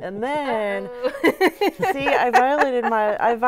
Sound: laughing

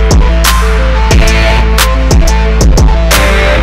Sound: none

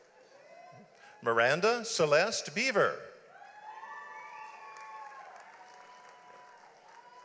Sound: audience applauds

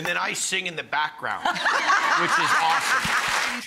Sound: laughing

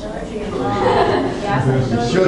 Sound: class murmurs

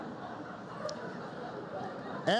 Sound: laughter

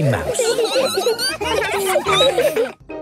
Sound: squeaking; laughter

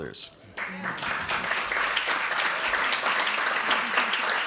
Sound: audience applauds

